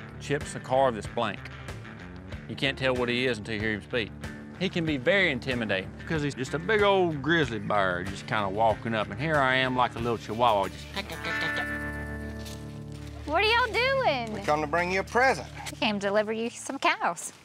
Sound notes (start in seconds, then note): 10.7 imitates chihuahua barking; 12.2 footsteps